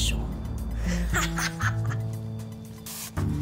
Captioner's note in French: rire maléfique